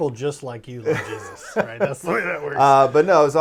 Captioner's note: laughing